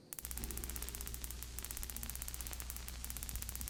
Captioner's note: taser buzzing